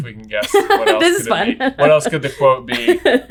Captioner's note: laughing